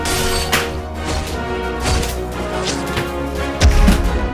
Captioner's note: belt whooshing; sword clanging